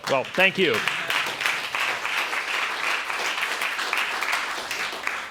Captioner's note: applause